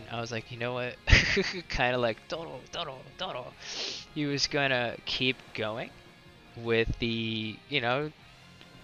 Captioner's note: laughs